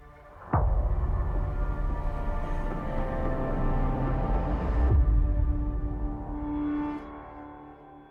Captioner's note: echo